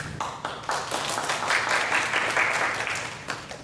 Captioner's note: applause